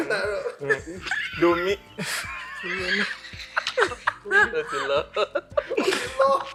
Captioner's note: everyone laughs